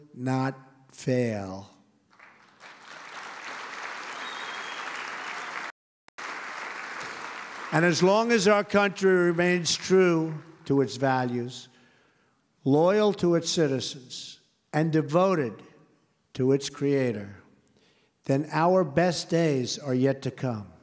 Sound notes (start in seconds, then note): 2.0 applause